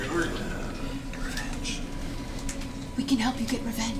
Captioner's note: whispers